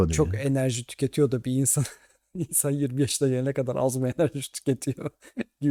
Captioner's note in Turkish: kahkaha